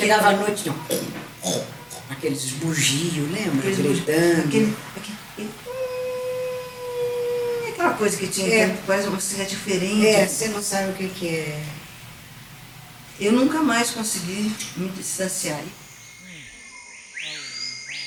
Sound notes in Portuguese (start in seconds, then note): 5.6 Imitando ruído urbano